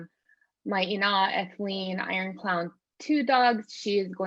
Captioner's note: non-english speech